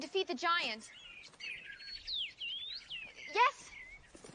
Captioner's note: chirping